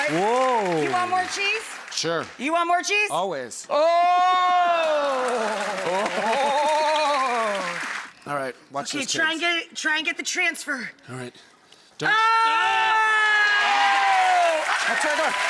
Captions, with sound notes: "whoa" You want more cheese? Sure You want more cheese? Always. Oh (clapping) All right watch this Try and get the transfer All right (crowed cheering)